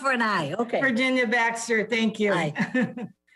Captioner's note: laughs